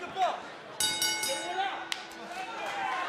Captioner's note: bell ringing; crowd cheering